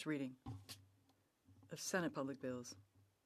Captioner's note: speaking French